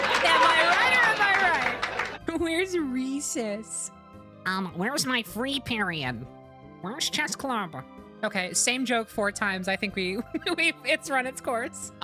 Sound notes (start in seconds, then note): 0.0 canned Laughter; 4.4 nerdy Voice